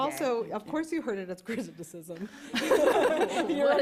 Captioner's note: laughter; chuckles